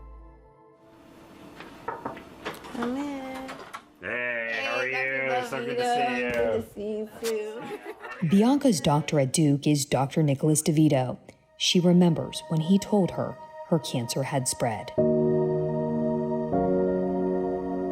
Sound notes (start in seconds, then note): 1.8 knuckles rapping; 15.2 gentle music